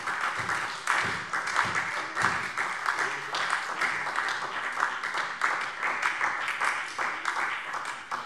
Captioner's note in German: Beifall SPD